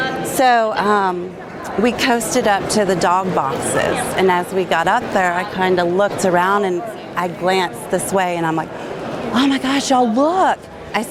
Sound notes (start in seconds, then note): none